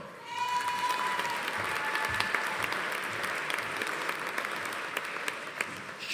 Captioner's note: audience cheering; audience applauding